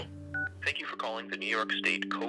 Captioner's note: on phone recording